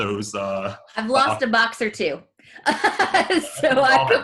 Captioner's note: laughs